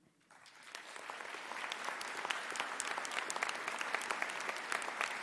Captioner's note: audience applauding